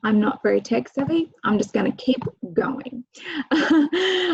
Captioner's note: laughs